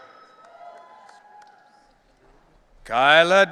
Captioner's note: audience cheering